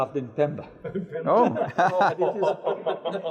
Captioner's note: giggling